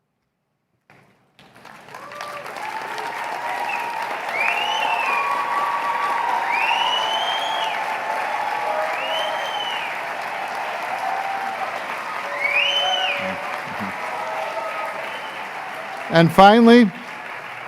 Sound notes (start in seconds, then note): 0.1 applause; 2.0 cheering; 4.9 applause